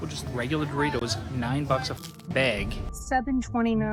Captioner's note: chip crunching